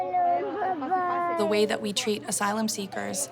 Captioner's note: girl crying